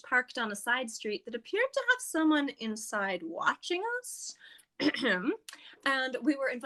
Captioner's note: theatrically clears throat